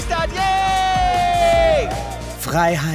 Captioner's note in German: Jubel